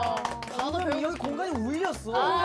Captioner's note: applause of respect